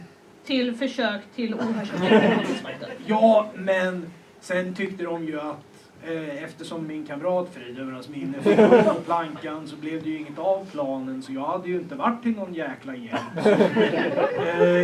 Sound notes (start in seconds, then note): 1.5 laughter; 8.3 laughter; 13.1 laughter